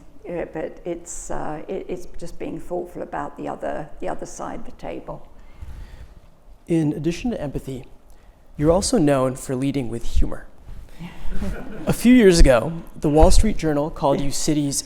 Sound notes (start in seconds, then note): 11.0 audience laughing